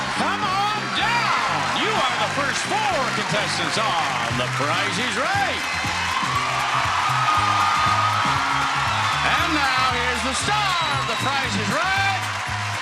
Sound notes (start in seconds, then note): 5.5 audience applauding; 5.5 upbeat music